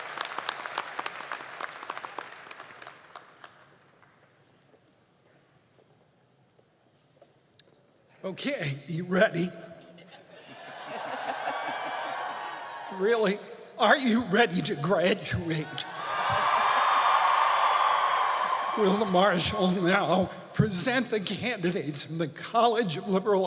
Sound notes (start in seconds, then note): 3.5 cheers and applause